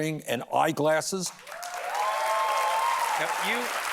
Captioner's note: cheers and applause